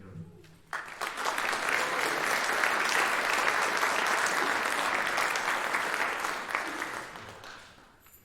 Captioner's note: applause